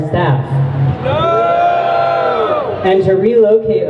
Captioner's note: crowd booing